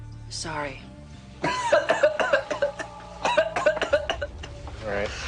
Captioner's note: Sean coughs